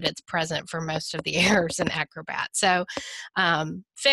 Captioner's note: chuckles